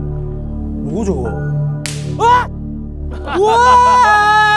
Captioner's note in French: Les coups de claquement le font craquer